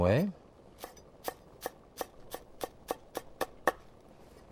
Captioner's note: knife chopping